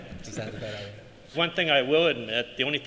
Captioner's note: laughter